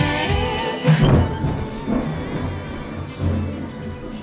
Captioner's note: thunder rumbles